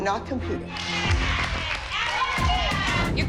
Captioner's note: others cheering